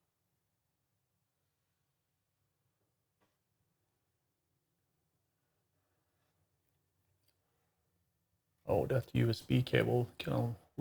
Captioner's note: silence